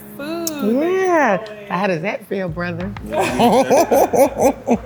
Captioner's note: laughs